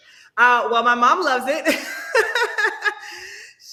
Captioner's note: laughing